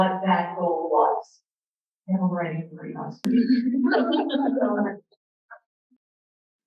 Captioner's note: audience laughter